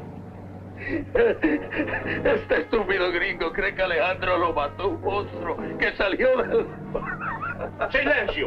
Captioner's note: General Tostada speaking in Spanish; Colonel Cabeza speaking in Spanish; General Tostada speaking in Spanish